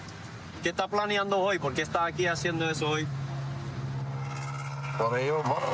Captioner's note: speaking spanish